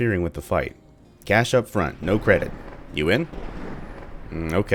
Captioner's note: thunder